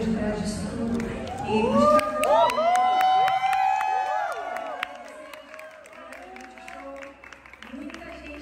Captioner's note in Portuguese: gritos e aplausos